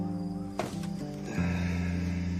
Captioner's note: sighs